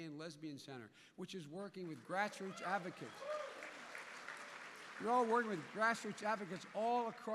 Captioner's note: applause